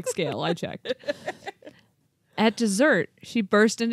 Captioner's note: chuckling